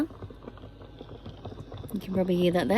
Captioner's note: heavy bubbling sounds